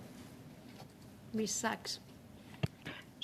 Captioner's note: speaking French